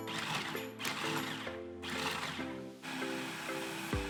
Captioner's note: machine whirs